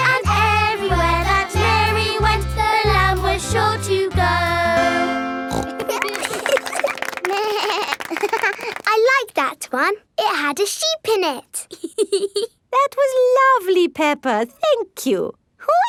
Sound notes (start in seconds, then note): 5.5 snorts; 5.5 laughing; 7.3 bleats and laughs; 11.6 laughs